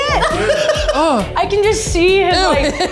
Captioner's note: laughs; upbeat music